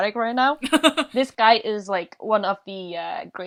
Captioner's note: laughs